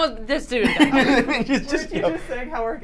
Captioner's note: laughter